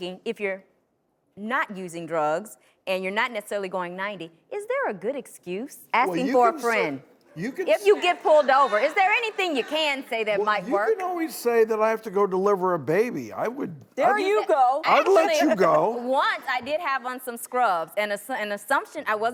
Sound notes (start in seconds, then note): 7.4 audience laughs